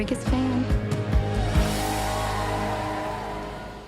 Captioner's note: cheering